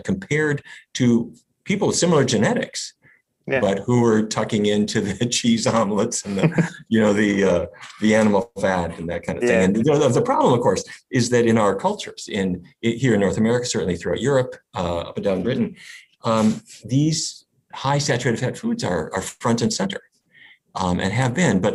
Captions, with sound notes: compared to people with similar genetics, but who were tucking into the cheese omelets (laughs), you know, the animal fat and that kind of thing. And the problem of course, is that in our cultures, in here in north America, certainly throughout Europe, down Britain, these high saturated fat foods are front and center and have been,